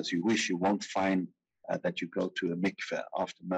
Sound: speaking in foreign language

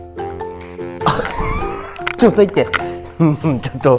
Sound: laughs

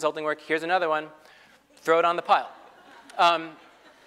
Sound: laugh

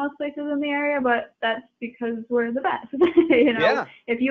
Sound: chuckling

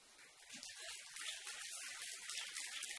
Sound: applause

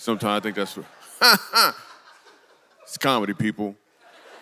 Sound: laughs; congregation laughs

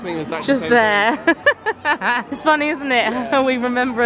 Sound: laughs

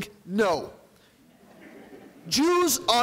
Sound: audience laughing

